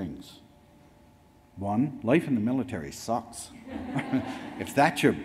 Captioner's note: audience laughs; laughs